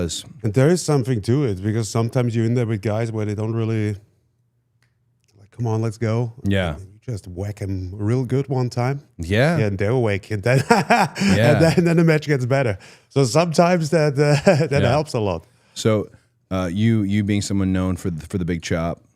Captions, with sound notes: And there is something to it. Because sometimes you're in there with guys where they don't really like, come on, let's go. Yeah. You just whack 'em real good one time and they're awake and then (laughs) and then the match gets better. So sometimes, that helps a lot. So you being someone known for the big chop